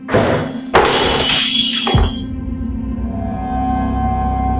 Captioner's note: glass smashes